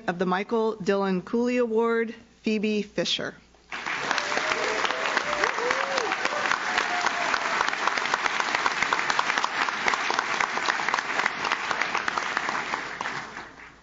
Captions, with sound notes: of the Michael Dillon Cooley Award, Phoebe Fisher. (audience claps) (audience cheers)